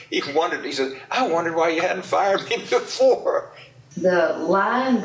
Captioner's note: laughs